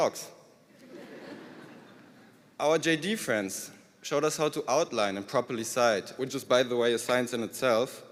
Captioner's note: laughter